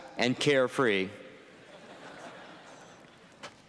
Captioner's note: laughter